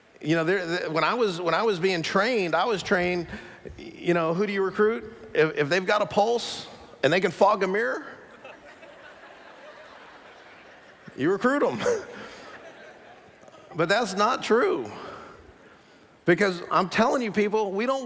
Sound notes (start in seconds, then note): 8.2 laughter